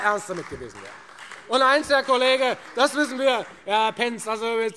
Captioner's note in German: Beifall Freie Demokraten und vereinzelt AfD